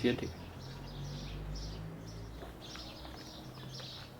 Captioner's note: birds singing